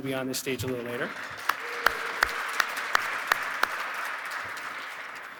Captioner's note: audience clapping